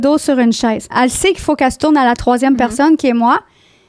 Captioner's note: in french